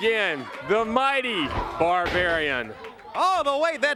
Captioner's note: crowd chatter